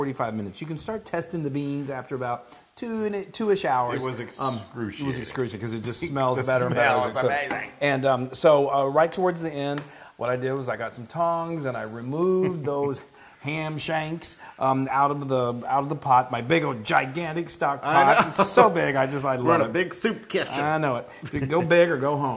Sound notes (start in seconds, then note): 17.9 laugh; 22.2 laugh